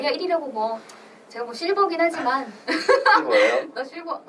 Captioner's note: laughs